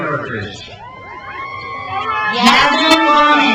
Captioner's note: crowd cheers